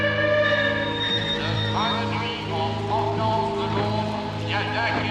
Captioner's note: pria berbicara bahasa Prancis melalui loudspeaker